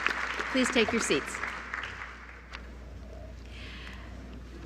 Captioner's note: applause